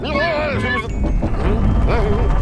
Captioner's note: rumbling sound